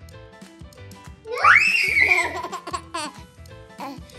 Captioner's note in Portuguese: Grito